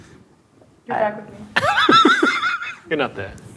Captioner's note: laughing